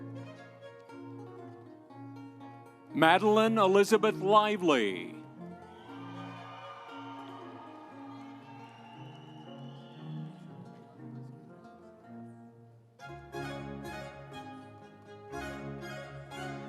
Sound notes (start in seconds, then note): 5.5 audience cheering; 6.0 instrumental music